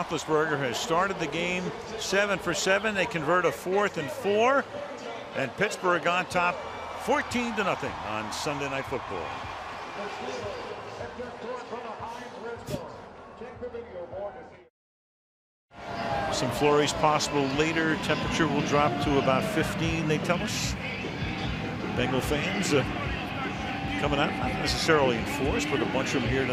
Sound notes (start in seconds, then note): 10.7 pa announcement